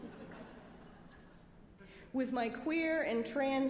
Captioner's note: laughter